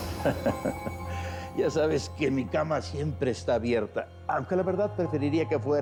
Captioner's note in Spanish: él ríe